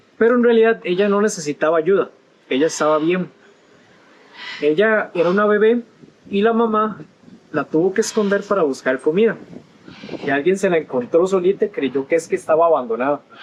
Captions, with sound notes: [In Spanish]: But in reality she didn't need help, she was fine. [In Spanish]: She was a baby and the mother had to hide her to look for food. [In Spanish]: Someone found her alone and thought she was abandoned.